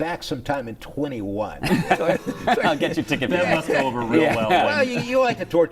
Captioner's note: laughter